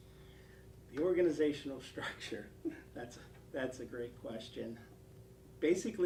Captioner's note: laugh